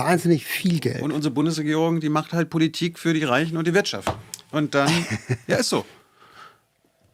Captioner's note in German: gelächter